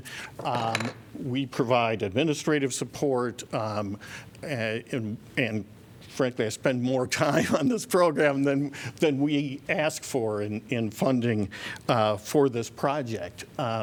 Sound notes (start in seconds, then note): 7.3 laughter